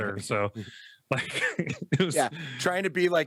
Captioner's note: laughs